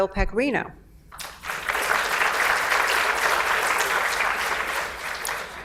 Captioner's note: audience applauds